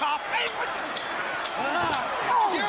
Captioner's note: crowd chatter